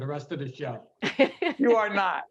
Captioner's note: laughing